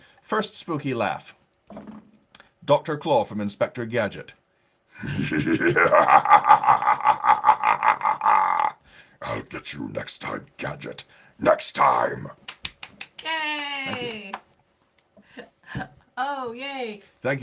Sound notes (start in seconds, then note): 5.0 laughing; 12.4 clapping